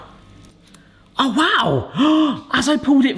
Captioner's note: gasps